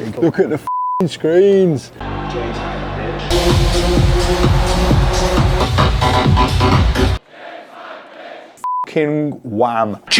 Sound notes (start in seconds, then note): 0.7 beep; 2.0 audience cheering; 6.8 crowd; 8.8 beep